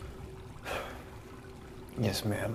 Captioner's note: sighs